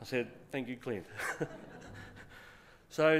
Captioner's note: laughter